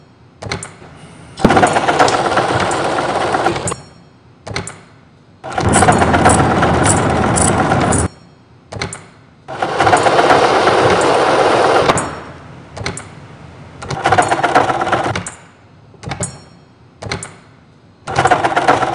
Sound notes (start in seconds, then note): 0.3 sound of metal clamp; 1.9 sound of starting flame; 3.8 sounds of workshop